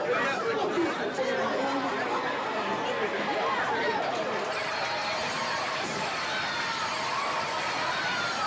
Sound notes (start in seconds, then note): 5.2 bells ringing